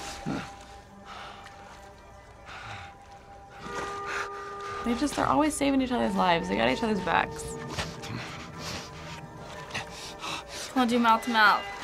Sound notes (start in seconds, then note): 0.1 Joel pants; 3.7 Joel breathes unevenly